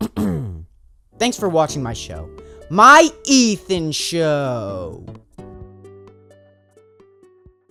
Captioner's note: clears throat